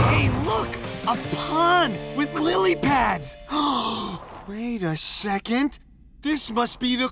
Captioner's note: gasps